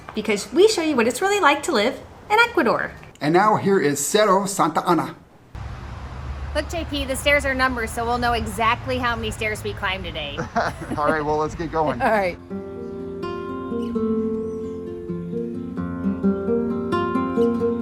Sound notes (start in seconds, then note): 10.2 laughs; 12.3 soft acoustic guitar